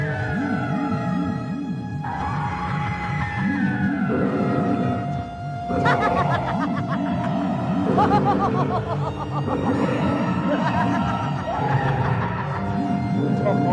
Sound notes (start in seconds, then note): 5.9 woman witchily laughs; 13.4 woman devilishly laughs